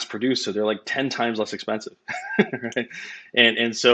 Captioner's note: laughs